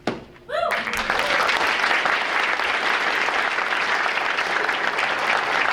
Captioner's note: audience applauding